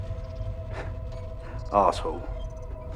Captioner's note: chuckles